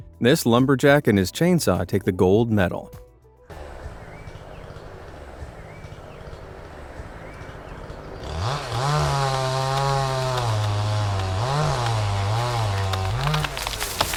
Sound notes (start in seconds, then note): 8.6 chainsaw roaring